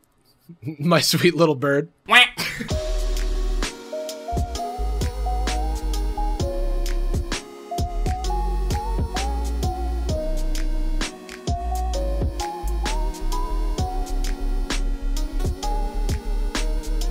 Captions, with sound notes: my sweet little bird. (quacks) (soft upbeat music)